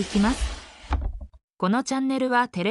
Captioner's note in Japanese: ふすまが閉まる音